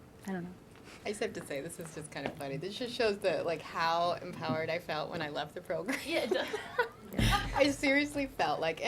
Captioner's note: laughter